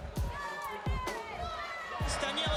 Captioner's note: cheers